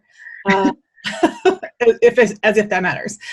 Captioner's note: chuckles